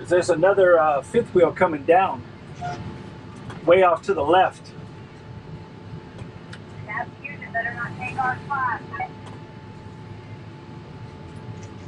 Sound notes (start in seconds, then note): 0.0 over the walkie-talkie; 7.3 over the walkie-talkie